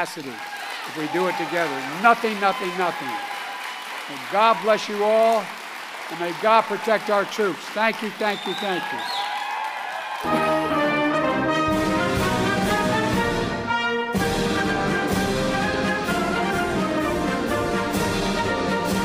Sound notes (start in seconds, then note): 2.8 applause; 15.3 applause